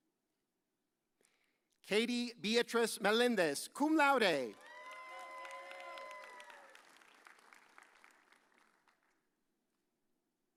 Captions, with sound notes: Katie Beatriz Melendez, cum laude. (audience cheers)